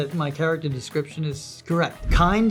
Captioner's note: none